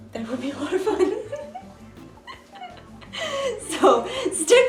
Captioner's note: chuckles